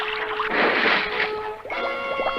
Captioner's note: splash!